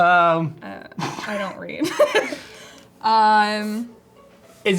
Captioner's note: laughs